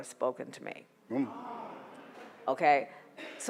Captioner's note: audience groans